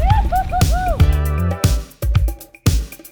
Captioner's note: person whooping; chill techno music